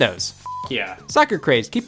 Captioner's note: beep